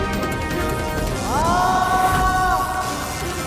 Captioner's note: screams